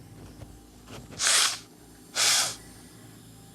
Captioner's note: blowing nose